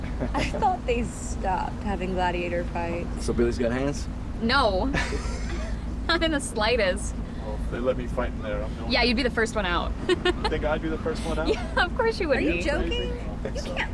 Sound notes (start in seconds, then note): 4.9 Miguel laughs; 9.9 laughs